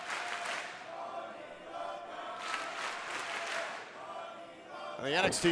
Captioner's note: fans chanting